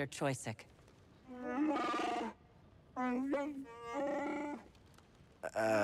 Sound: growl, roar

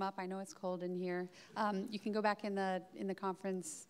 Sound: audience laughing

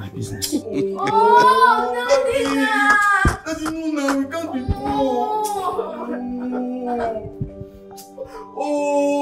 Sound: crying and complaining

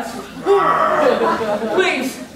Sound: growling

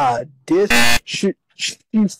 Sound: 𝐄𝐗𝐓𝐑𝐄𝐌𝐄𝐋𝐘 𝐋𝐎𝐔𝐃 𝐈𝐍𝐂𝐎𝐑𝐑𝐄𝐂𝐓 𝐁𝐔𝐙𝐙𝐄𝐑

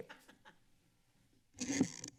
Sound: laughs

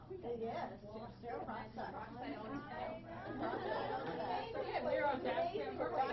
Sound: everyone talking

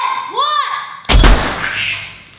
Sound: gunshot

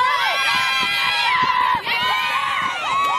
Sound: cheers

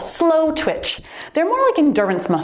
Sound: timer beeps

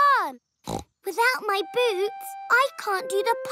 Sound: snort

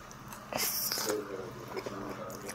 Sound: slurp

